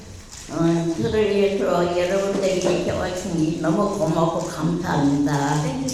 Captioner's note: speaking in foreign language